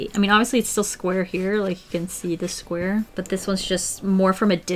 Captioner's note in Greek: none